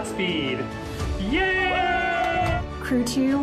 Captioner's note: cheers and Applause